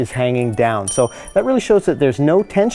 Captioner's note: ding